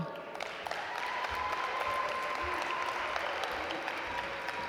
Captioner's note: audience applaud